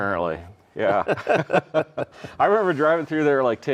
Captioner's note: both laughing